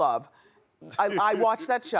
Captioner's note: laughing